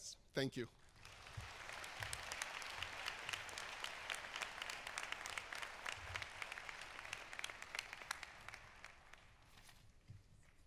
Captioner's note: applause